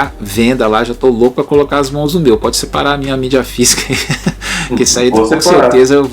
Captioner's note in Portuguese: risadas